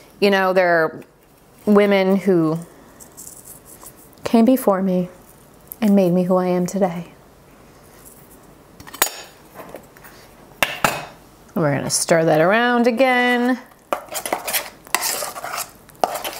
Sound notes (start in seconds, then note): 8.9 tin clinking